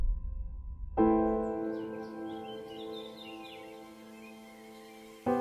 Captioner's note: birds chirp